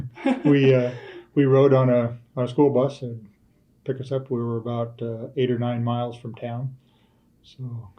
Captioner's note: laughter